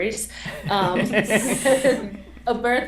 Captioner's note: laughter